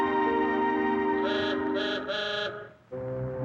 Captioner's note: horn honking in distance; intriguing music playing